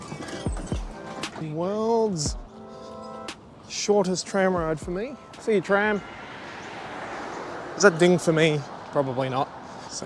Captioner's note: ding